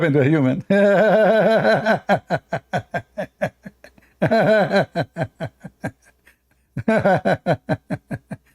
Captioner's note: Ketawa